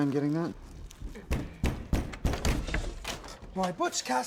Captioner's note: loud knocking